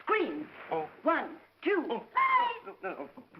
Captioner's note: muffled scream